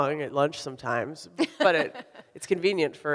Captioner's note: laughs